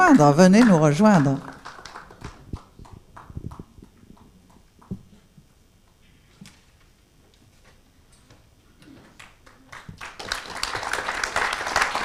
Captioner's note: applause